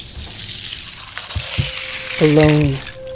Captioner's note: sound of cracking ice